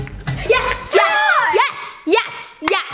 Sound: party horn

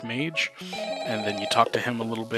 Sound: phone ringing

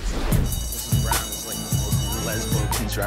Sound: school bell ringing

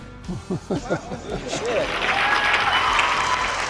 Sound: questioner chuckles; audience cheers

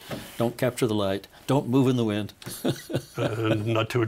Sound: laughing

